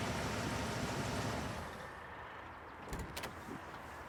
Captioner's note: car shuts off